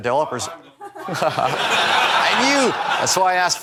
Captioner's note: people laughing